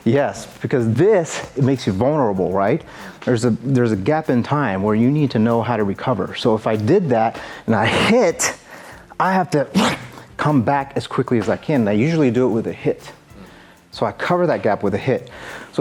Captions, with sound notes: - Yes, because this it makes you vulnerable, right? There's a gap in time, where you need to know how to recover so, if I did that and I hit I have to (grunts) come back as quickly as I can, and I usually do it with a hit. So, I cover that gap with a hit.